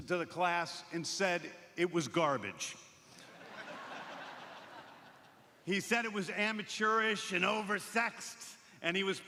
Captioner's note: laughter